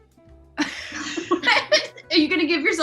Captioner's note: laughs